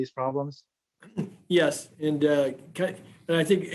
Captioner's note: speaking chinese